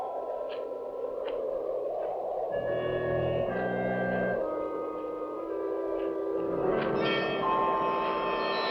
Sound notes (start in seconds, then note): 2.0 wind howling; 2.5 suspenseful music